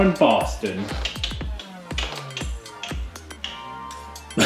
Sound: clicky sounds; laughs

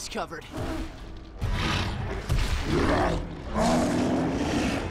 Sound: growling

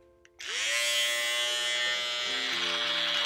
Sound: shaver buzzing

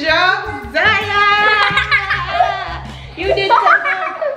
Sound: laughs

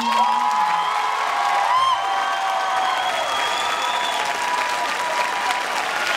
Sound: audience cheering and clapping

